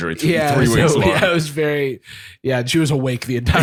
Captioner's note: laughing